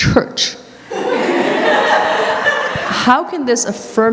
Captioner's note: audience Laughter